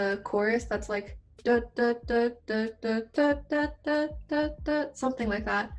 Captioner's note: imitates sound